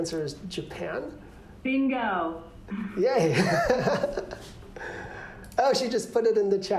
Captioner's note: laughter